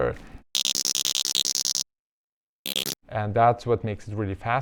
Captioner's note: whale clicking